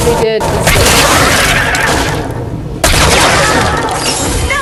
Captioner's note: gunshot sounds